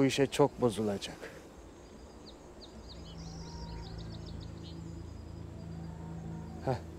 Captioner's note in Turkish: Kuş cıvıltısı sesleri